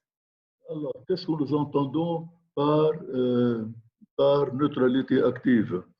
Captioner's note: speaking in foreign language